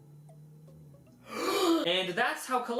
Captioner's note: breaths in